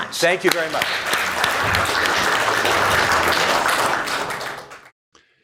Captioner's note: audience clapping